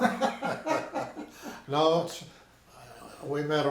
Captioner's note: both laughing